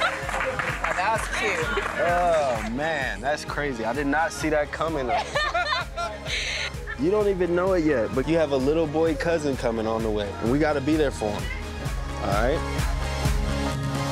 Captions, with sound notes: (guests clapping) - Now, that's cool. - Oh, man, that's crazy, I did not see that coming, though. (ladies laughing) You don't even know it yet, but you have a little boy cousin coming on the way and we gotta be there for him, all right?